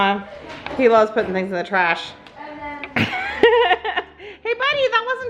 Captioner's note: laughs